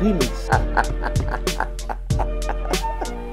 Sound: laughs

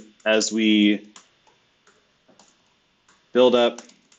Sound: computer keyboard clicking

